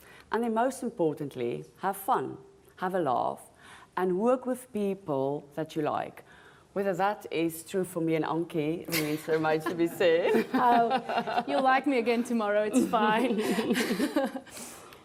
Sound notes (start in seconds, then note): 9.6 laughs